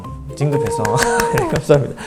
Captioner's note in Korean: 짝짝짝